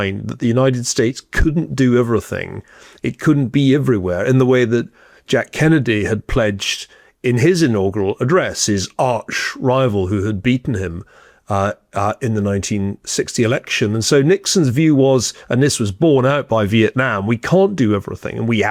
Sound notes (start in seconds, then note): none